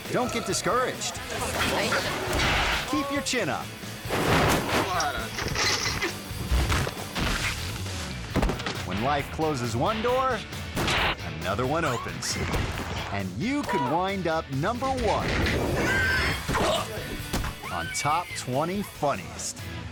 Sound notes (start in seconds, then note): 1.6 man crashing; 2.4 bike crashing; 6.2 horse crashing; 6.5 girl thudding; 15.5 man thudding; 15.8 screaming